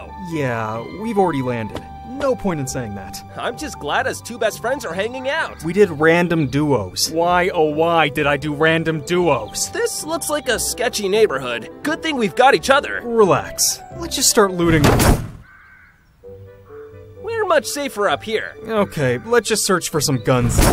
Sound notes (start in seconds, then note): 14.7 crashes; 20.4 crash